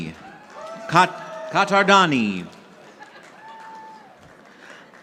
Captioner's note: audience applauding